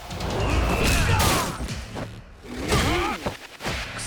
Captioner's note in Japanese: うめき声